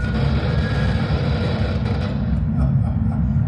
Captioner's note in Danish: højt lyd-feedback; radioknitren